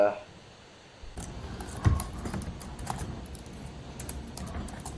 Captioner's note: typing